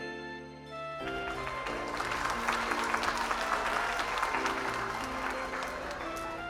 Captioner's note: applause